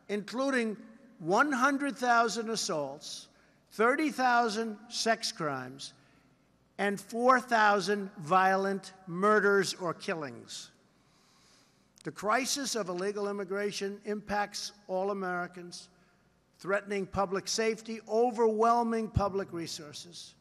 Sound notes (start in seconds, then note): none